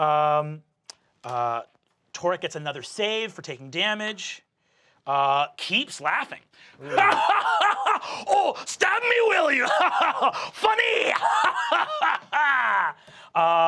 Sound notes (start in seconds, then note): 6.8 laughing; 10.1 laughing; 12.1 laughing